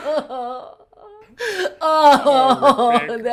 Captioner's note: crying